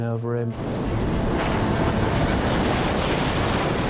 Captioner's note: waves roaring